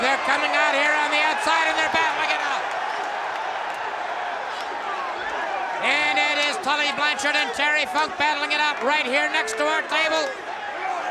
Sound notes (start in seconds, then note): 3.0 applause